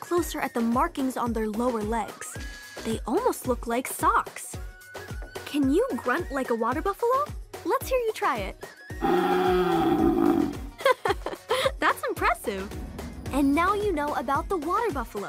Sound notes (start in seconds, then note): 9.0 grunting; 10.6 Mira laughs